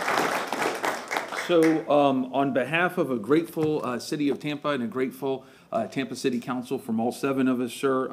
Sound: applause

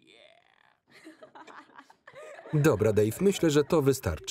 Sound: Kym and Lana laughing

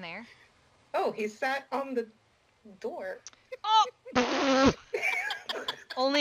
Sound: everybody laughs

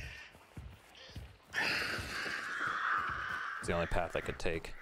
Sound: crows cawing

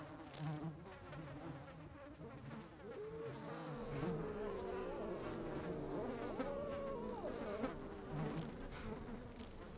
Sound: insect fluttering

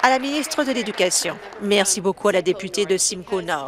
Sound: applause

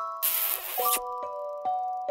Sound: moist smooch

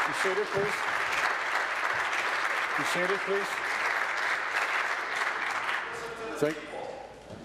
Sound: applause

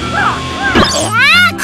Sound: poof

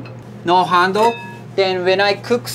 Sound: pots ringing

